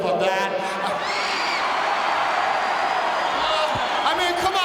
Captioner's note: audience cheering